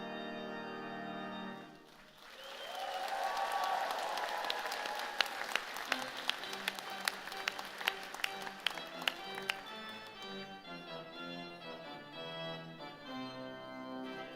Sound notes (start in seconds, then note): 1.8 applause